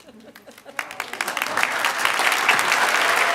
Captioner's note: applause